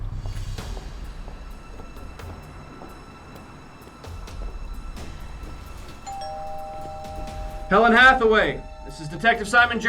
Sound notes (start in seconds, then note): 6.0 doorbell rings